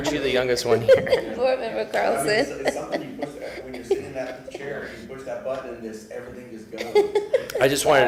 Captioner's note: laughter